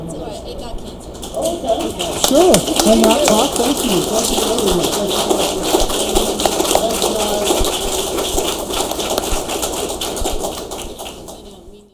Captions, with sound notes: - It's all right. It got canceled. - All right. Thank you, sure, for your time. Thank you! Thanks for coming tonight. (audience applauds) Thanks, guys! (audience applauds)